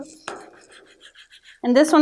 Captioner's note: rubbing